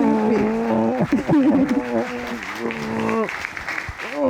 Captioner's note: both laughing